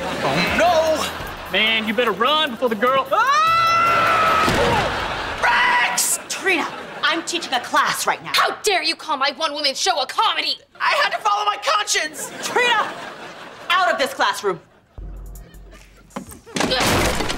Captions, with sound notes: - Oh, no! - Man, you better run before the girl-- [screaming] - Rex! - Trina, I'm teaching a class right now. How dare you call my one woman show a comedy! I had to follow my conscience! Trina, out of this classroom.